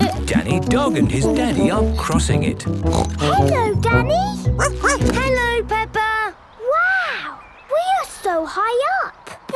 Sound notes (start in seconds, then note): 2.8 snorts; 4.9 barks